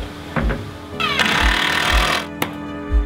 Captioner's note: drill